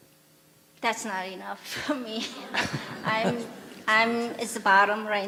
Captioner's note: /Questioner/Audience Laughter